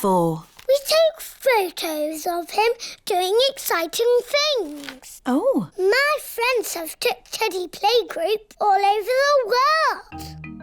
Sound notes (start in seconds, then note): none